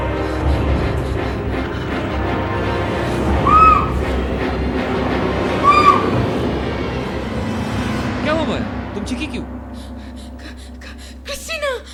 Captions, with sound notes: (Screaming) What happened Maya? Why did you scream? (Gasps)